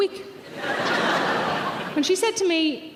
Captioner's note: audience laughing